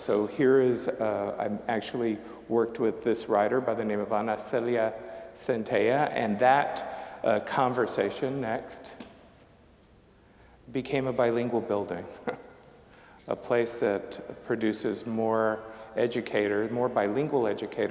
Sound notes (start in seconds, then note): 12.1 chuckling